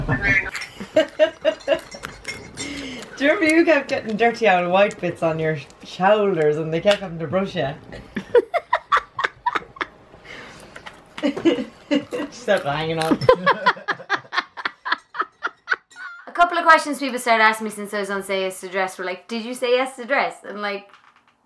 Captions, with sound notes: (laughing) Do you remember you kept getting dirty auld white bits on your shoulders and they kept having to brush ya? (laughing) She's hanging up. (laughing) - A couple of questions people started asking me since I was on Say Yes To The Dress were like, did you say yes to the dress?